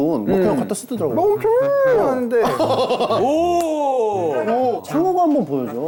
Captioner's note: mimicking the sound perfectly